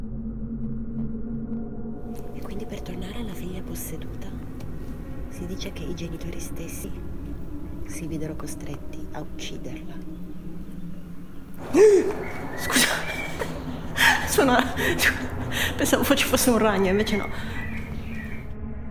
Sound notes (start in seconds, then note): 11.6 gasps